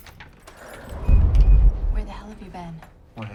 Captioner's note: door latch clicks; door whooshing